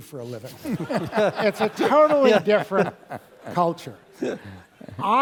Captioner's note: laugh